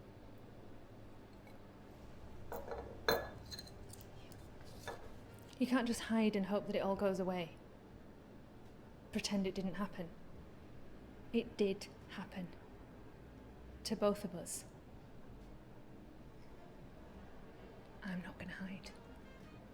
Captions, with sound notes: (plate clinks) - Thank you. - You can't just hide and hope that it all goes away. Pretend it didn't happen. It did happen, to both of us. I'm not gonna hide.